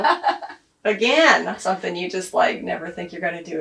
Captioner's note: laughs